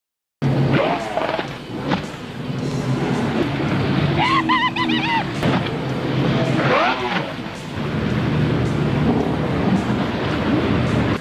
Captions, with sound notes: [Motor revving] YEEEHHAAAA! [Motor revving]